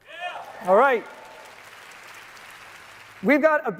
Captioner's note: applause